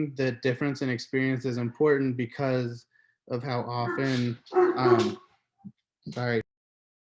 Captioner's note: barking in the background